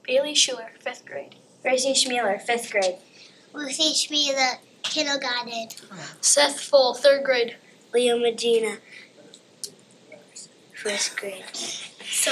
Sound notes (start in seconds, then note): 10.4 whispers